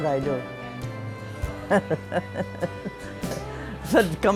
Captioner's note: laughs